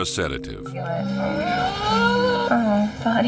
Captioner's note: Putter whines